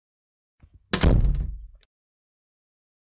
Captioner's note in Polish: otwieranie drzwi, które działają w jakiś niepojęty sposób